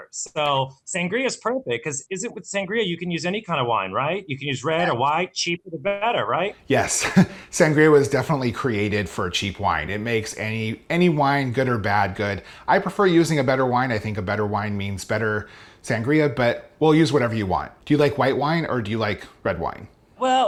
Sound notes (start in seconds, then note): 6.7 laughing